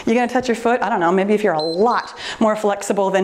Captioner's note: timer beeps